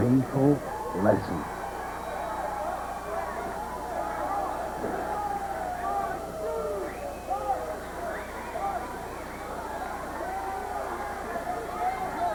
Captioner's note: crowd cheering